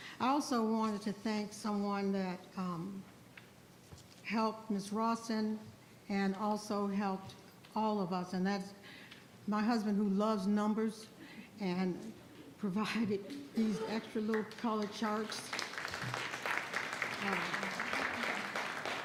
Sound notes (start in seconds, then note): 14.3 audience applauds